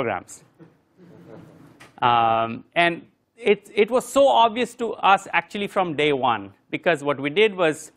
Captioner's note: laugh